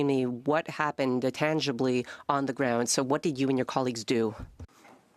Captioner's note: speaking French